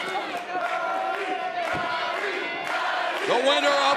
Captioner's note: fans chanting